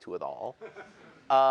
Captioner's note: laughter